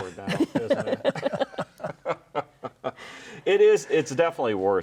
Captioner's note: all laughing